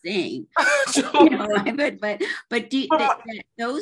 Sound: laughs

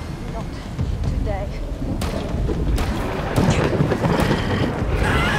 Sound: gun shot; screaming

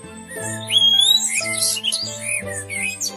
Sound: blackbird sings and birds chirp

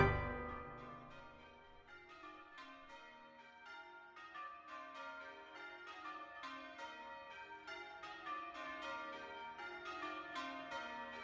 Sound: St James church bells ringing

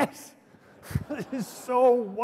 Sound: laughter

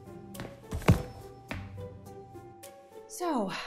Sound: box clatters onto counter

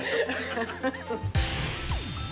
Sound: both laugh; bright music

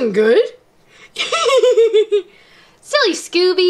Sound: laughs

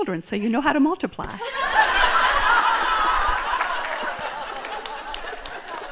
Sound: laughter

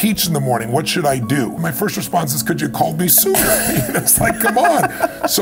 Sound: chuckle

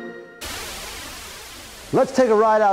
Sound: upbeat music; wind whooshing

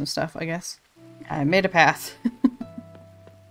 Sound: laughs

